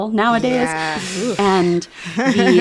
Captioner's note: laughter